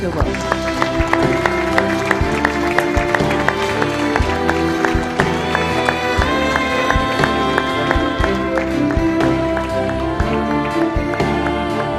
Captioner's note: applause